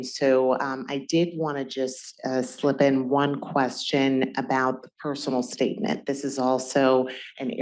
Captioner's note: none